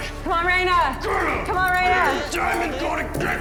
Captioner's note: growling